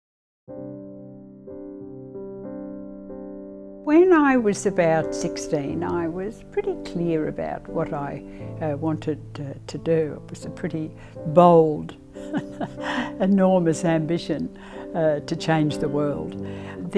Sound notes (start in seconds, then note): 0.5 soft piano music; 12.2 laughs